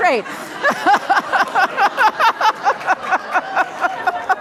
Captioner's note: laughs